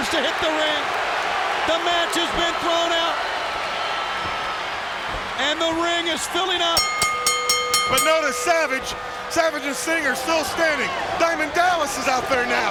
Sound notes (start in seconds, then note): 6.7 bell dinging